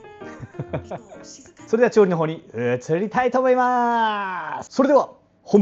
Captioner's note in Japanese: 笑い